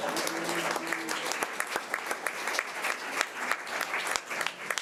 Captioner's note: audience applause